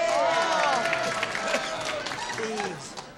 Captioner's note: cheering